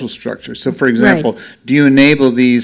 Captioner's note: voiceover